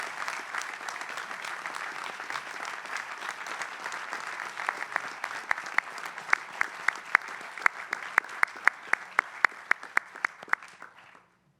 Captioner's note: applause